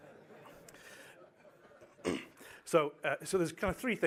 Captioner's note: laughter